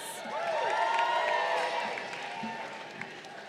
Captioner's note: crowd cheering